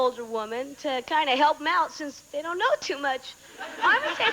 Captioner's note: audience laughing